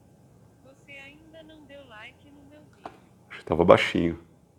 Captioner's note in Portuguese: Celular falando